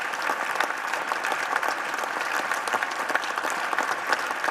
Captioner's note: applplauseause